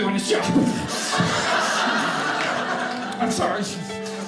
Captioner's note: audience laughing